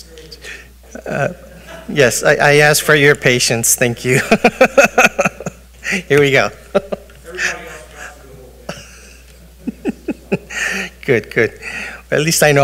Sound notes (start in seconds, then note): 4.1 chuckles